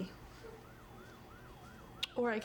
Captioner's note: sirens in Background